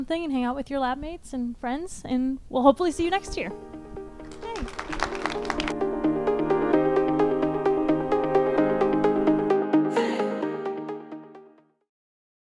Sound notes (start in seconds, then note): 4.2 audience applauds; 6.2 inspiring music